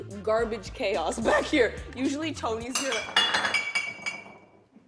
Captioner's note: bottles clanking